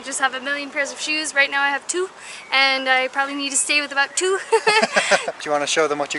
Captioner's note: laughter